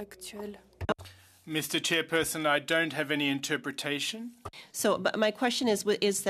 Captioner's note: speaking French